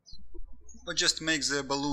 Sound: birds chirping

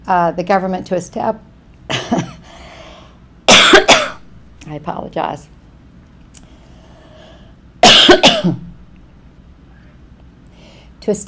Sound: coughs

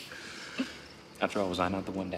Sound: laughs

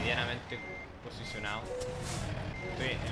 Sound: wrong beep

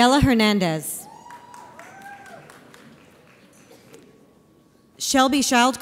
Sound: audience applauds

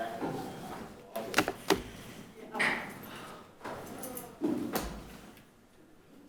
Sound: chatter in the background

